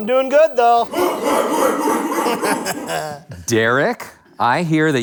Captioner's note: audience chants